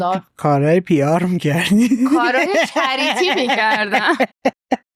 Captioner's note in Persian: خنده